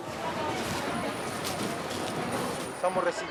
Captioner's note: helicopter propeller sound